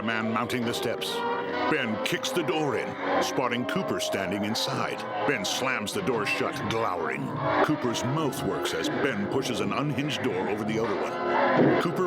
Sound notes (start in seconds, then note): 1.8 creatures moaning